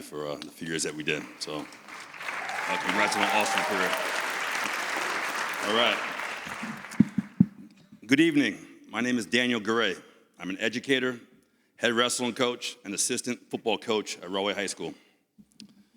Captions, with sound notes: for the few years that we did. So, congratulations on an awesome career. (audience cheers) All right. Good evening, my name is Daniel Garay, I'm an educator, head wrestling coach, and assistant football coach at Raway High School.